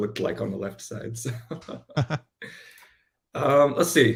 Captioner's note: laughs